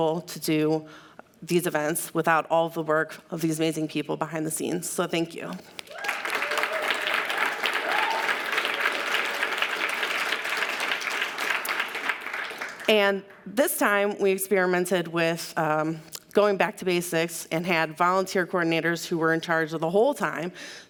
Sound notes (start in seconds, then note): 5.8 audience applauds